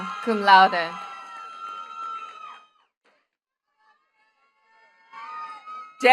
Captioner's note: attendees cheering and clapping